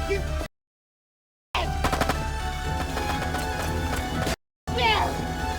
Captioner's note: gun firing